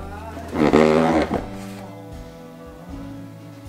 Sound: squeaking

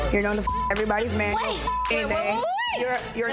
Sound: beep

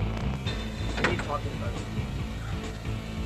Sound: door closes

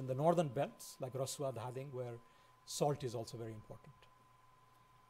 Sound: foreign language

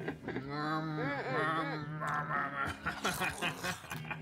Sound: he grunts; crunching

